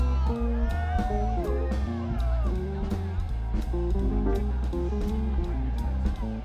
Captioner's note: students cheering and screaming